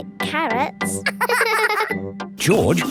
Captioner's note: both laughing